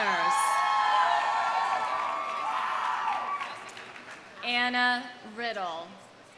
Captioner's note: audience cheering; audience applauding